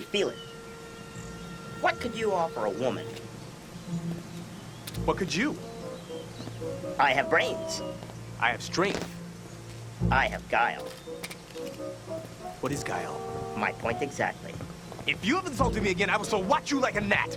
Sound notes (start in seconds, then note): 5.8 lighthearted orchestral music; 11.4 footsteps